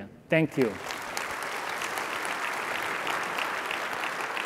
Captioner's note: applause